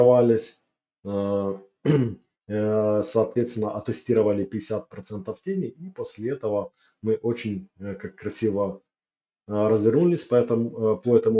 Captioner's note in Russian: откашливается